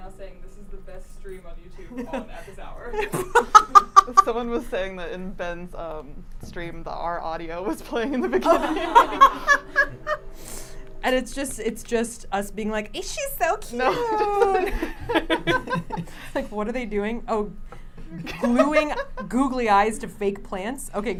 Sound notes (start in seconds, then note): 2.9 laughs; 8.2 everyone laughing